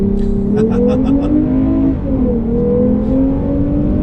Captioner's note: laughing loudly